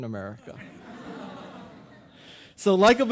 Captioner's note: audience laughing